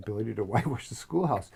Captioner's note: laugh